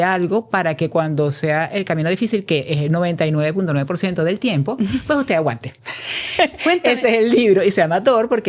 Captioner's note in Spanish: risas